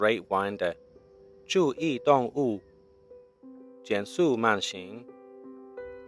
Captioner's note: speaking Chinese